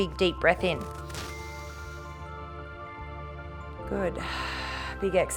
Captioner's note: inhales; exhales